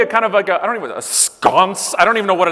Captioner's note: none